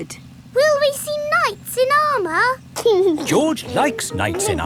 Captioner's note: giggling